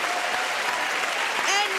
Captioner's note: cheering and applause